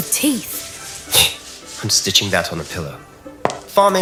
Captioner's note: snort